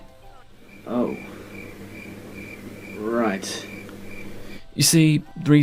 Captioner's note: crickets chirp